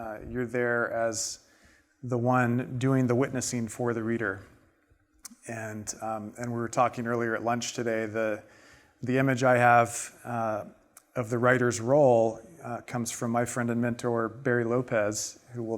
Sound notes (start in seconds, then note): none